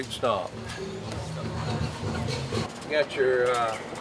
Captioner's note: laughing